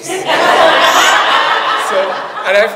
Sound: audience laughs

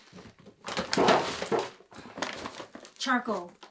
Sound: bag crackling

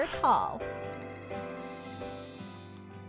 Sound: phone ringing

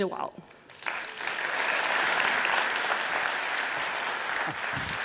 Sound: applause

